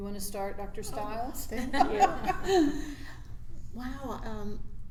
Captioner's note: laughs